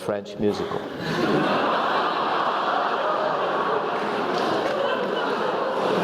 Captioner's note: laugh